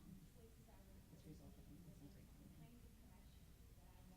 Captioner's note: mumbling